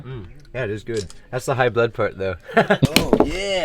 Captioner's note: laughs